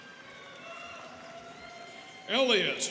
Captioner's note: students cheering